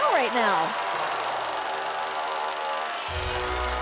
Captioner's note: crowd cheering